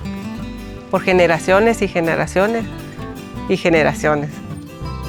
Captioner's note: speaking spanish